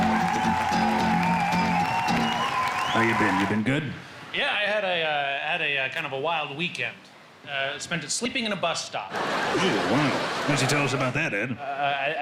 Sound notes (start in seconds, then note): 9.1 crowd lauging